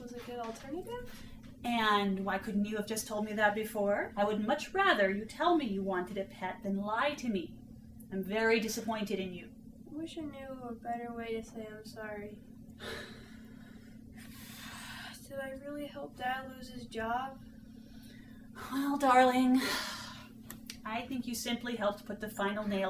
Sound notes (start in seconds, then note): 12.8 sigh; 12.8 guilty sigh